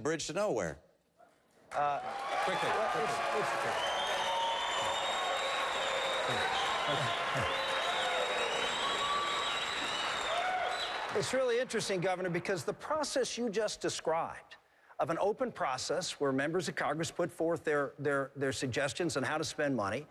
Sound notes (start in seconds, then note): 5.8 applause